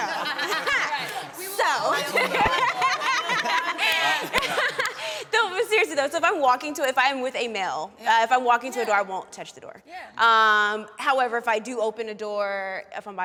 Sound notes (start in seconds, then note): 0.0 laughing; 2.6 panelists laughing